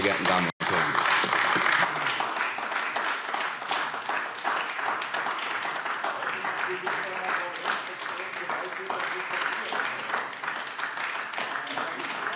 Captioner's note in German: Anhaltender Beifall AfD